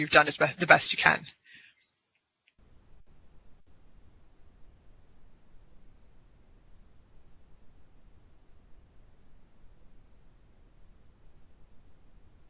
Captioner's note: silence